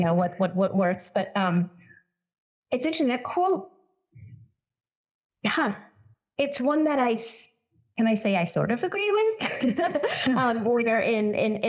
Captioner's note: laughs